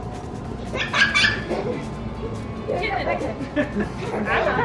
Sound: laughter

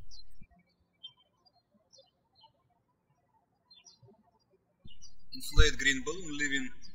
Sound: birds chirping

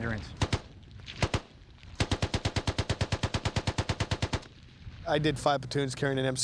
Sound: rapid, continuous gunfire

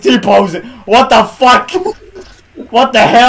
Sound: laughing

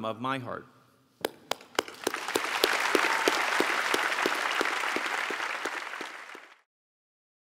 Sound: applause

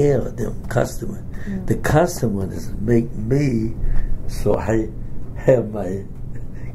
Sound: laughs

